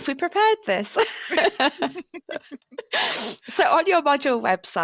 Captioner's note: laughter